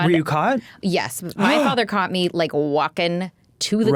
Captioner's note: Dan gasps